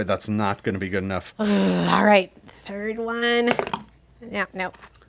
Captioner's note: dice roll